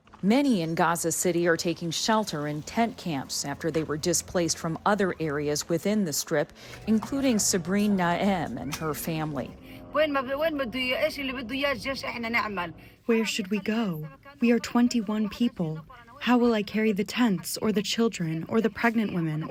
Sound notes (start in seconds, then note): 13.7 through translator